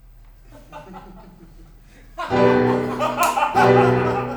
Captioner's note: Tom and Nick laugh